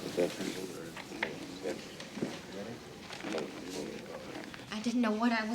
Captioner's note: background people chattering